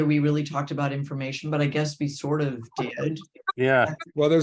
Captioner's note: he laughs